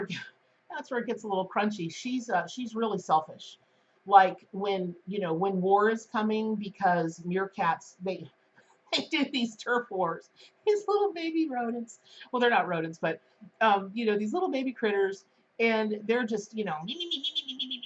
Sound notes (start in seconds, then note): 16.9 skittering noise